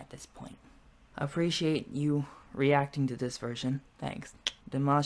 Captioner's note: clicks tongue